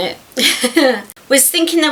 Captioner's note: chuckles